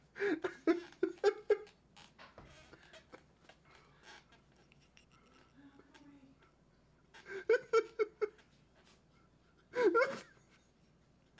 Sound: 1minute laughing fit, skip to 2:21

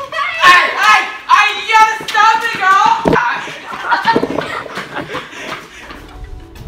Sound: yelling

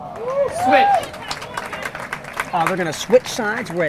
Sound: audience applauding and cheering

